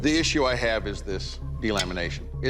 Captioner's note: clank